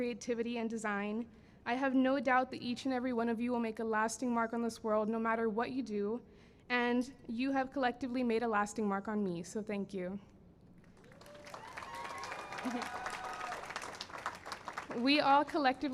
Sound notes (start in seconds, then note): 5.7 cheering and applause